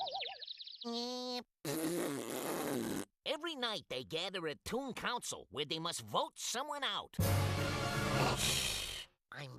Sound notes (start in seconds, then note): 0.9 jeering